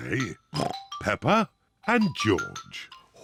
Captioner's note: oinks